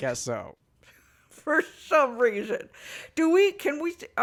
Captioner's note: laughing